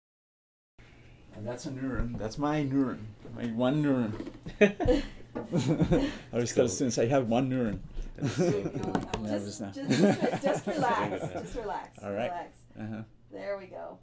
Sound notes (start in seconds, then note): 5.4 laughter; 8.0 laughter